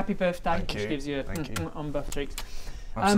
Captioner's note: mwah mwah